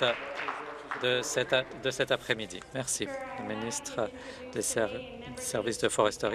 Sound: applause

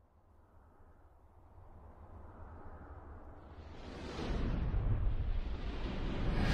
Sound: ominous thunder noises; swoosh!

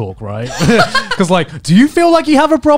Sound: laughing

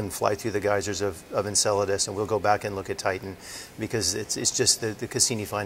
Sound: none

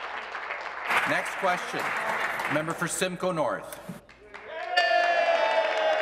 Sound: applause

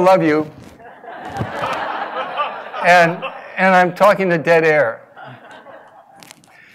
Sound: laugh

